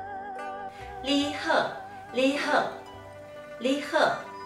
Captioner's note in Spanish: en taiwanes